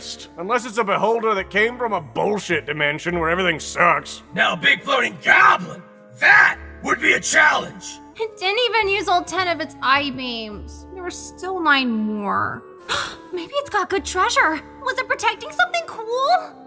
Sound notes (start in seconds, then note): 12.9 gasp